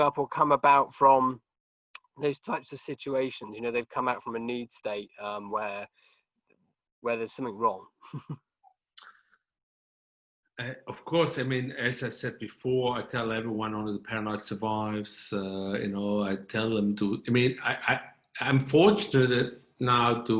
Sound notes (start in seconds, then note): 8.1 chuckling